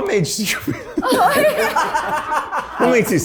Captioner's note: cast laughing